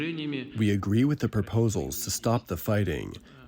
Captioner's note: through translator